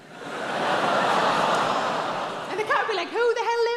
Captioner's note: audience groaning